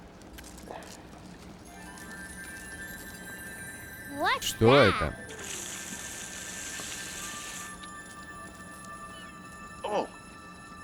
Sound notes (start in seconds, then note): 5.3 water running